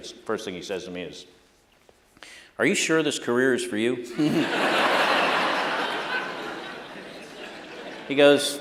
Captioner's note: laughter